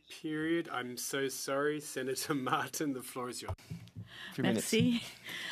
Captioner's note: speaking French